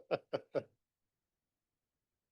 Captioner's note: laugh